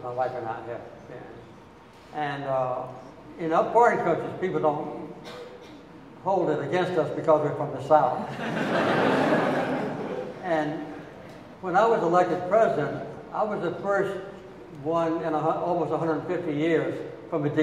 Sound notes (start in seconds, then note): 8.2 audience laughing